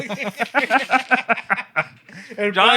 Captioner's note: laughter